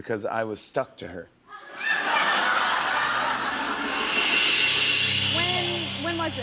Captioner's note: laughter